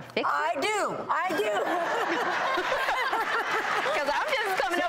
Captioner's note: audience laughs